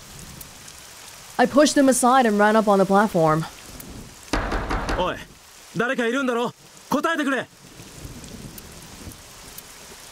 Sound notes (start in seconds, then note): none